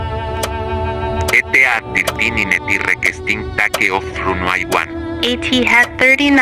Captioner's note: speaking Spanish